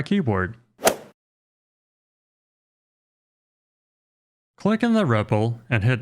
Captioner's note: golf swing sound effect